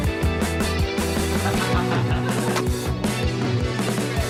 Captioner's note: laughter